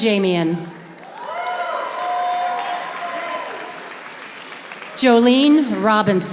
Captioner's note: audience applauding